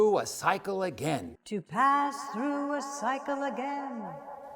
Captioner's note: echo: “To pass through a cycle again”